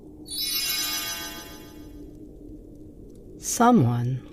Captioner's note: magic sound